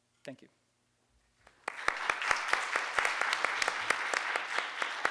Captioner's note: audience applause